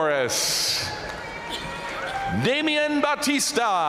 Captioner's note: audience cheering and applauding